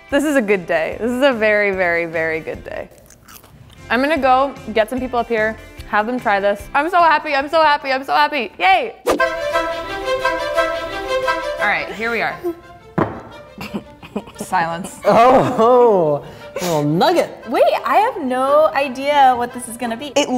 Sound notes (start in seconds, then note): 9.4 upbeat music; 13.5 giggling